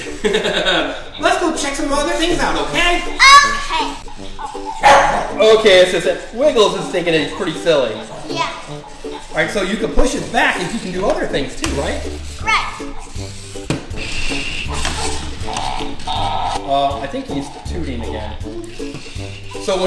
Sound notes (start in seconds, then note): 0.0 laughs; 4.4 dog barking